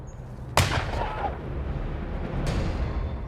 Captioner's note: gunshot